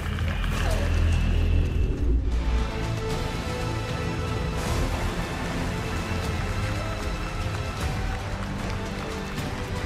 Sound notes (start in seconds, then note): 4.5 applause